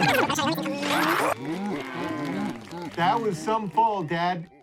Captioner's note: animals chattering